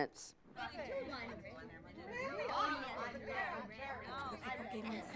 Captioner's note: students chattering